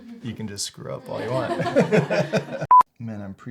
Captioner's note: laughs